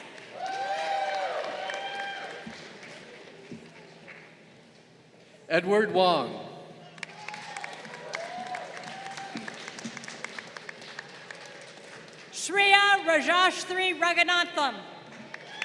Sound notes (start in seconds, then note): 0.0 crowd cheering; 6.8 crowd applauding; 15.0 crowd cheering